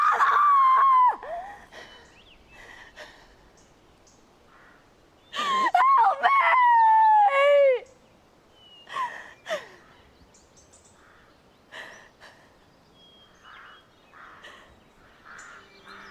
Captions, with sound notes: - Father! (ragged breathing) Help me! (gasping)